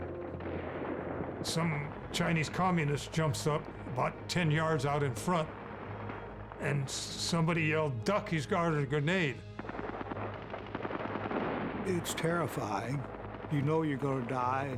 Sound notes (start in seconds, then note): 9.4 gunfire, explosions